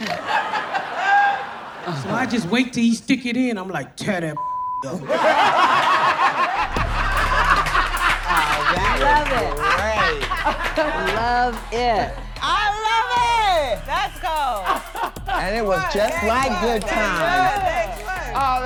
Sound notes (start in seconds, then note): 0.0 audience laughs; 4.3 beep; 4.9 audience laughs